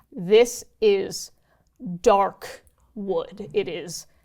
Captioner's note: none